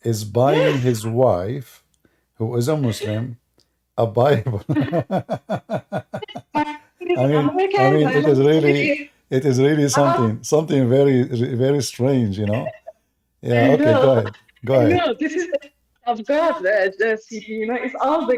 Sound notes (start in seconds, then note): 4.3 Ketawa